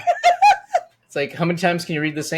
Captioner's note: laughing